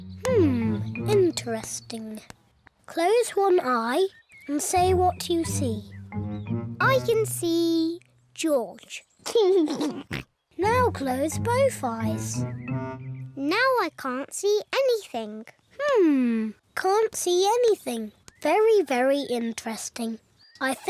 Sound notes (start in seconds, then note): 9.6 laughs